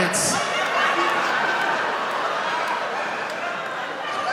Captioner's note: laughing